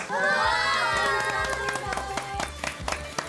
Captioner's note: applause~